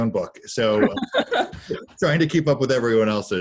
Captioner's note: laughing